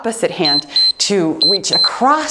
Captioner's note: timer beeps